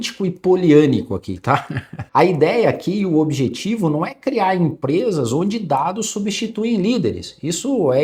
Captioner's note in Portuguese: risadas